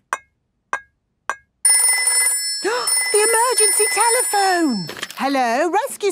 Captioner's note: phone ringing, gasp